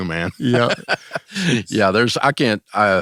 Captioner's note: laughs